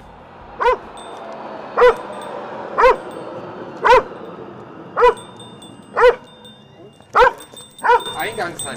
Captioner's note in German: Verkehrsgeräusche; Hund bellt